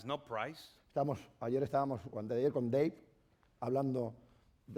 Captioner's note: speaking spanish